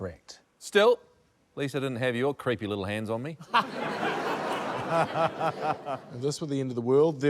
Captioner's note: laughter